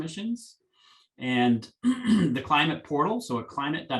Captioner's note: clears throat